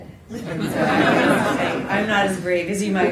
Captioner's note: laughter